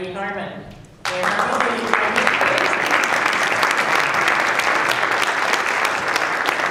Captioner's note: applause drowns out speaker